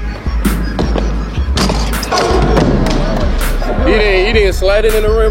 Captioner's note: dunk sound